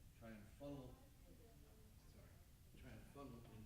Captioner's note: stammers